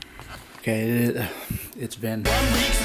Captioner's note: exhale